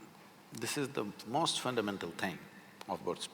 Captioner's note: none